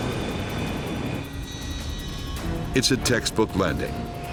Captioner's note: engine humming